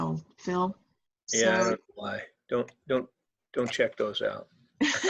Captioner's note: laughs